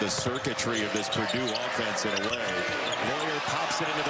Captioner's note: none